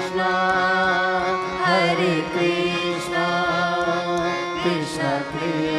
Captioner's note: none